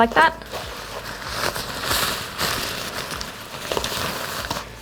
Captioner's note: cover rustling